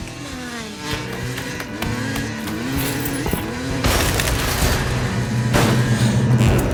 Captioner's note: bike whirring; gentle music; suspenseful music